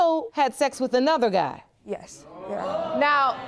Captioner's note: audience exclaims